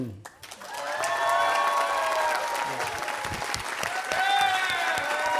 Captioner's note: audience cheering and applauding